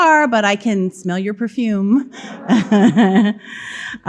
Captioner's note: audience laughing; laughing